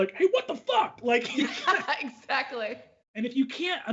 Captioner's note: both laugh